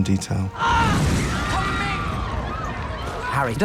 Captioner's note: students screaming